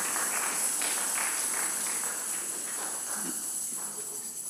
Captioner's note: congregation applauding